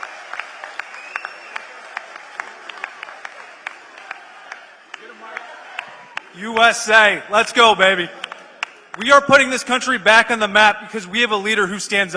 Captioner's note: applause